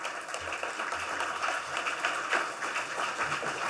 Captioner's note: applause